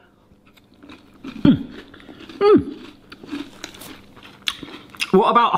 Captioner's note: crunching noises